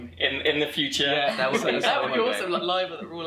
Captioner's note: laughter